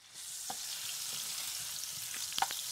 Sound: food sizzling in pan

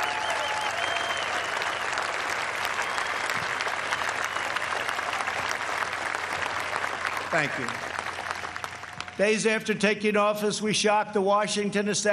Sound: cheers and applause

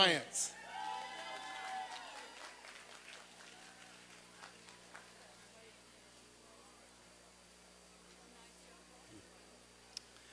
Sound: applause and cheering

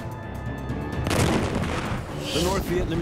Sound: guns firing

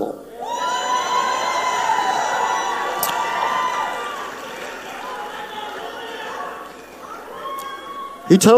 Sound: audience cheers

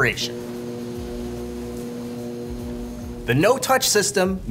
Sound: electricity hissing

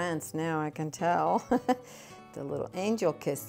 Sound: laughing

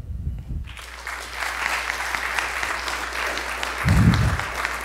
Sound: audience applauds

